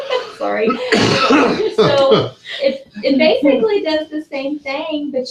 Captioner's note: laugh; cough